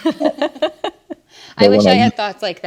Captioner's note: ladies laughing